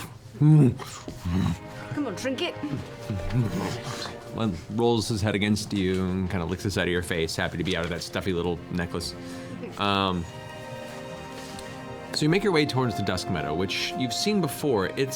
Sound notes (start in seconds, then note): 0.4 bear moans; 3.0 grunts